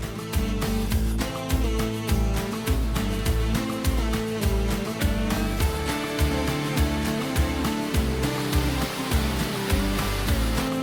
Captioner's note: rushing water and upbeat music